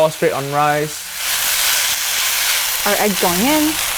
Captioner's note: dish sizzling